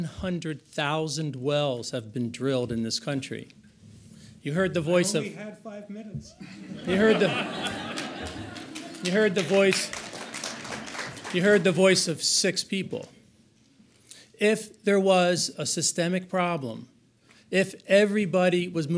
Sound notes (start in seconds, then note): 6.4 audience laughs; 10.2 audience applauds